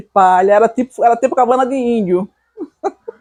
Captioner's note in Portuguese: Risos